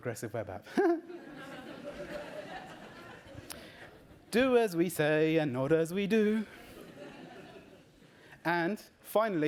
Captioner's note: laughs